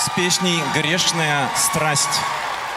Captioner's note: aplauz